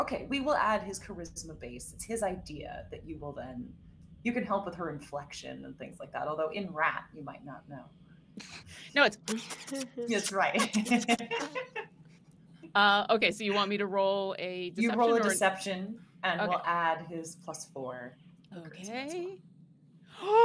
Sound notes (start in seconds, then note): 9.3 squeaking; 10.1 laughing